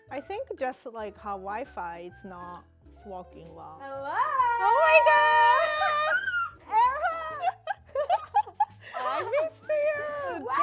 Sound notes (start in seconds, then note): 5.4 laughs